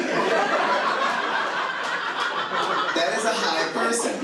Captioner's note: audience laughing